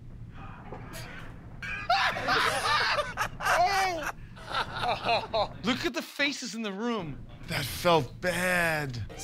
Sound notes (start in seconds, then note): 1.7 laughter